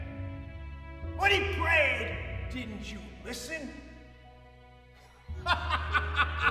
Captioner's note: laughing